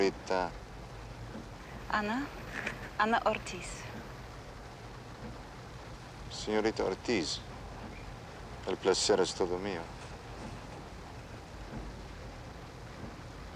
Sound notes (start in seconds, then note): none